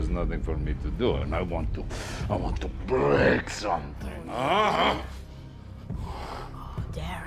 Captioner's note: grunting